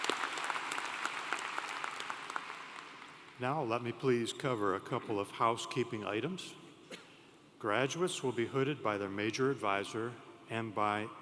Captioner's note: applause